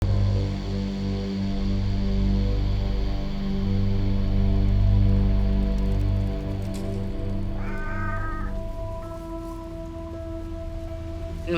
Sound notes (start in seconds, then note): 0.0 suspenseful music; 7.5 cat meowing